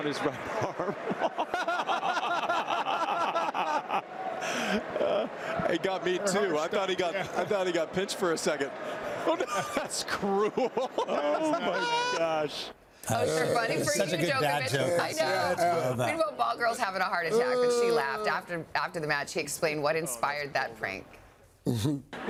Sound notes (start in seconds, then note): 11.4 laughter